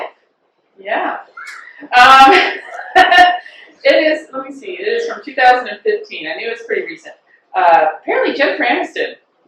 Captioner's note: laughter